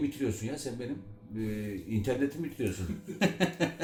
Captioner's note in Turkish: Gülme sesleri